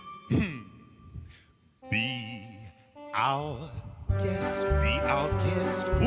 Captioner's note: chuckles